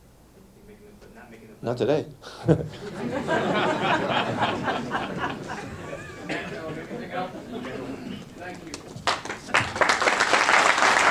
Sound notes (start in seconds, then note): 2.4 laughter; 8.4 crowd applauds